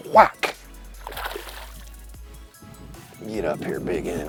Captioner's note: water splashes